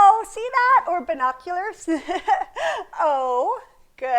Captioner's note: laughs